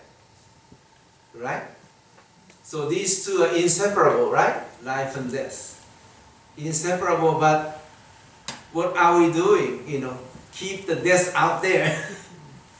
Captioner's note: chuckles